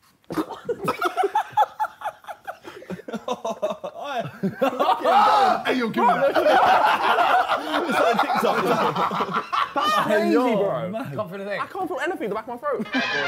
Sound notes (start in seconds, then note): 1.3 JJ laughs; 7.0 Sidemen laughing